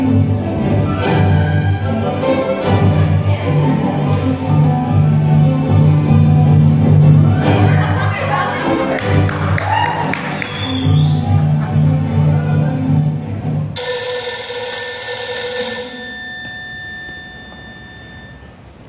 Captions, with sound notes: My pants. Where are my ballet slippers? (Audience cheers) (Phone rings)